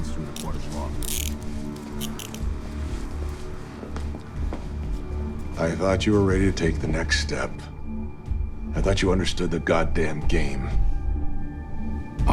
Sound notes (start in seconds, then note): 0.9 handcuffs clicking; 1.6 suspenseful music continues